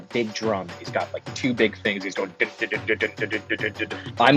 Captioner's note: mimics dhol drumming